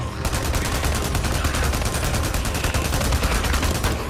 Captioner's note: gun shots sounding